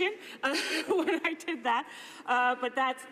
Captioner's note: laughter